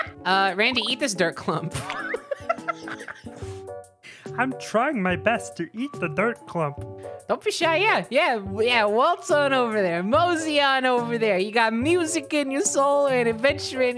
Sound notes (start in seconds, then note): 1.7 laughing; 4.3 little guy voice